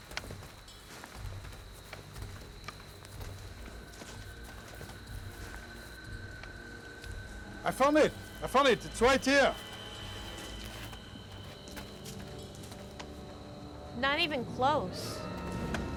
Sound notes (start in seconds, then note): none